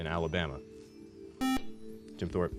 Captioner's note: beep